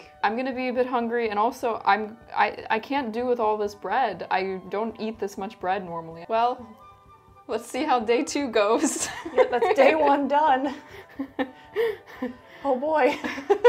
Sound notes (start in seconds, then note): 10.7 chuckles